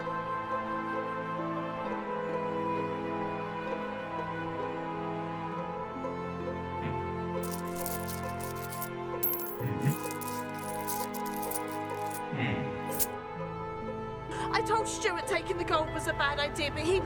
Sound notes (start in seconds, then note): 7.5 coins clinking